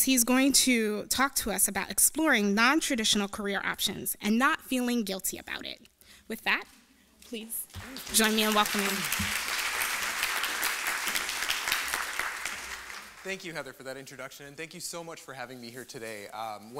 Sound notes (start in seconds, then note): 7.7 applause